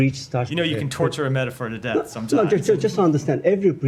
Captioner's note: laughter